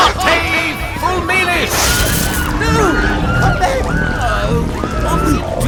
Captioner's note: lightning strike, burbling